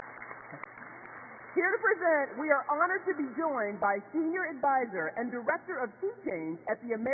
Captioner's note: applause